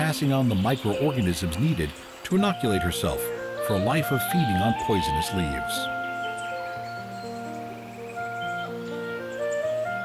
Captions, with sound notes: passing on the microorganisms needed to inoculate herself for a life of feeding on poisonous leaves. (Birds chirping)